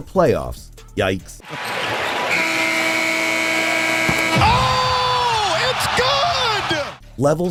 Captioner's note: game audio